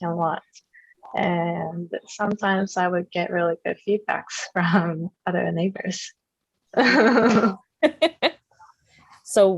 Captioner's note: laughter